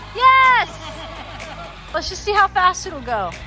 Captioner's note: laughing